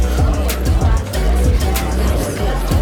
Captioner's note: chatter; laughing